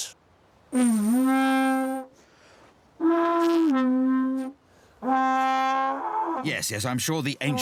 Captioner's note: bellowing